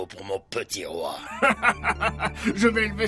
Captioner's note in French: riant